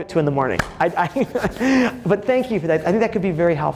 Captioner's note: laughs